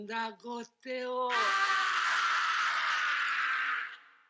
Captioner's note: speaking in Japanese; man shrieks